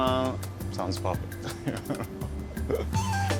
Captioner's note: laughs